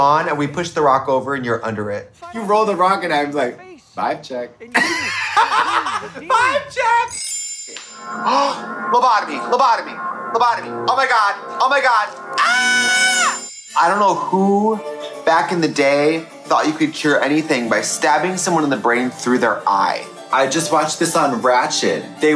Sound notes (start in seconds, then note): 4.7 both laughing; 7.1 soft chiming; 8.8 gasps; 12.4 Trixie screams; 13.3 soft chiming